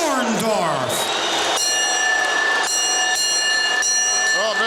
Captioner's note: bell ringing